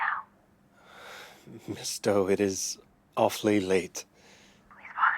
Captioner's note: sighs